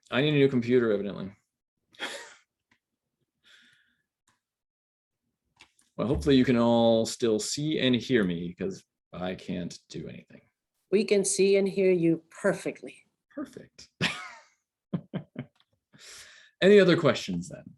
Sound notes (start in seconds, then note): 2.0 laughter; 14.9 laughter